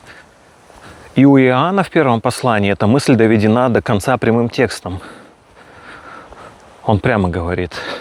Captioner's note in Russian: тяжелое дыхание